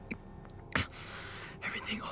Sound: pained gulp

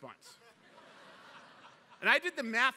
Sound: laughter

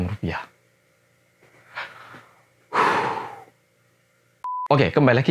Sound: breathes heavily

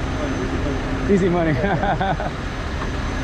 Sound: laughs

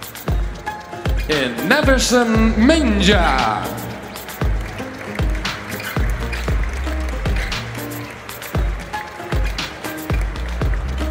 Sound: applause

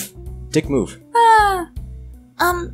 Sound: happy noise

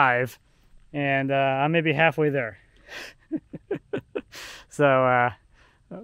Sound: laughs

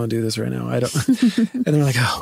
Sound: laughing

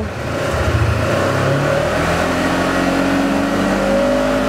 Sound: motor revving

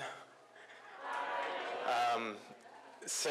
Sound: voiceover

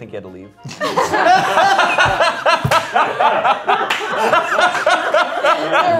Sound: laughter

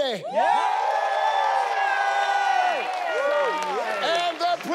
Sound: audience cheering

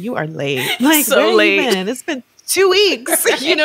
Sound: chuckling

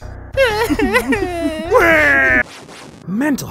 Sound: bawling

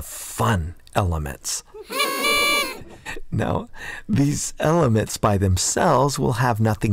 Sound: sound of a party

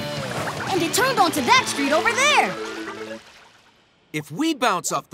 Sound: none

